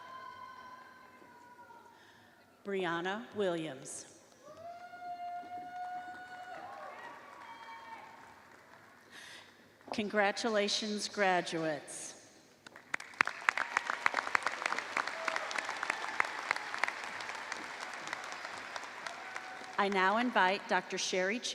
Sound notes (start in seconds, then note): 7.7 applause